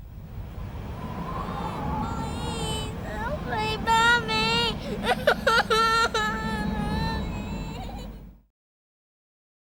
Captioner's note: Nikki crying